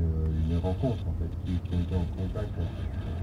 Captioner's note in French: Grésillements